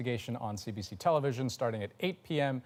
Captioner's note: none